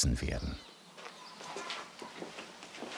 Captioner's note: chatter